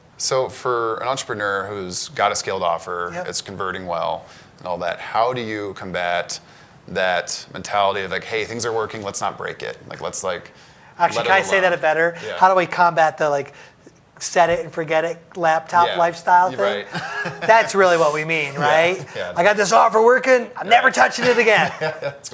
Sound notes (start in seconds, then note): 16.5 laughs